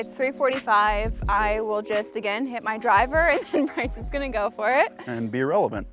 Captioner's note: laughs